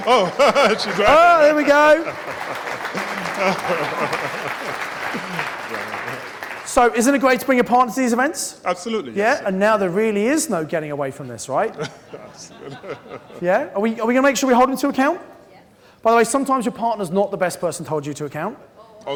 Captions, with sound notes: - Oh, she's here. - There we go. (crowd applauding) - So isn't a great to bring your partner to these events? - Absolutely. Yeah. - And now there really is no getting away from this, right? Yeah. Are we, are we going to make sure we hold him into account? - Yes. - By the way sometimes your partner's not the best person to hold you to account.